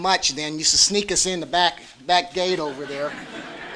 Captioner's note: laughter